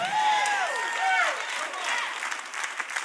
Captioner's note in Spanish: Aplausos